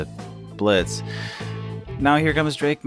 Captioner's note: sigh